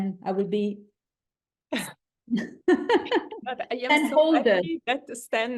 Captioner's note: laugh